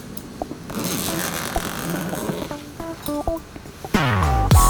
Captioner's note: funk softly playing; zipper; funk softly playing; funk playing loudly